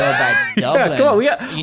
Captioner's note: laughing